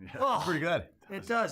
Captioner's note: laughs